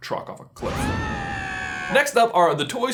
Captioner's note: screaming